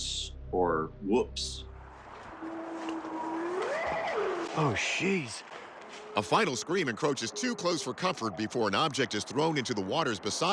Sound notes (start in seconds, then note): 2.2 eerie howl